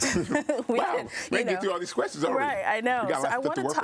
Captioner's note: all chuckling